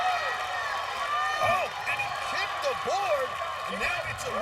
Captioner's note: cheers and applause